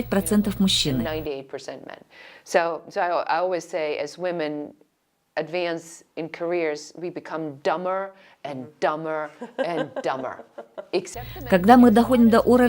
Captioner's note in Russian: Разговаривают на английском